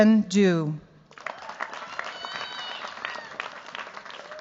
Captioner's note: cheers, applause